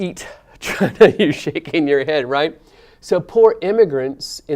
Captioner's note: laugh